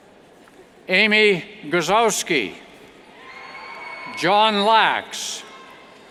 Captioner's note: cheers